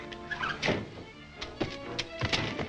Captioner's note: feet thud; door slams; desperate music